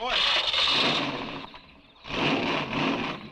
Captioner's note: engine cranks; engine revving